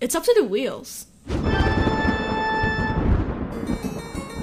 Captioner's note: spooky sound effects